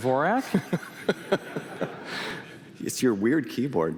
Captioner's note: laughter